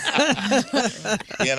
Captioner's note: laughing